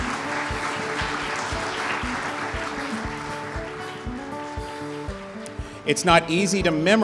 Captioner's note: applause